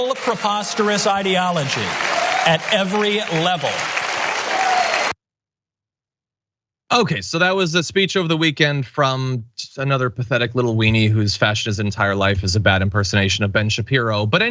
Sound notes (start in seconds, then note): 5.6 applause